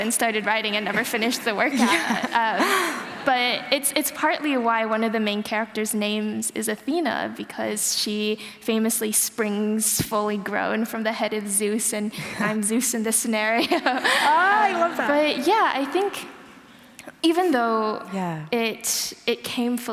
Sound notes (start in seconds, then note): 13.5 laughter